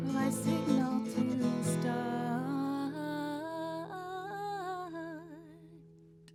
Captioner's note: quietly